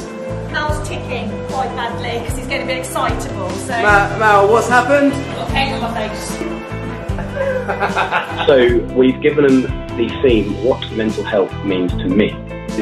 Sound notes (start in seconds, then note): 6.4 laughing